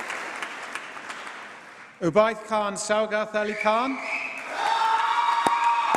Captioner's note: applause